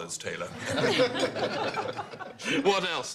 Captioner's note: laughter